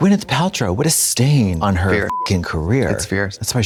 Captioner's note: beep